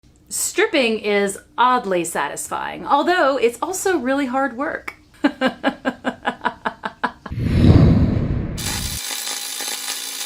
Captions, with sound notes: Stripping is oddly satisfying ... although it's also really hard work. (laughing)